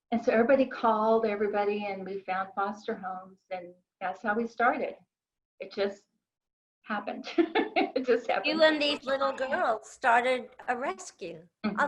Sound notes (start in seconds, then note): 7.4 laughs